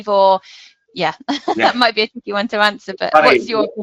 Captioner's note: laughing